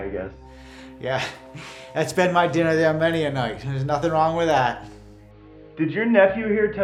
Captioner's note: laughs